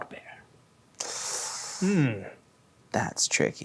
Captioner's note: inhales